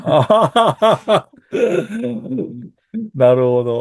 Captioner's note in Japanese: 笑い; 咳払い